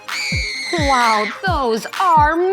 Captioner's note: child screams